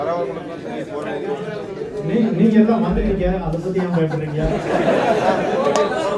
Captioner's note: participants laugh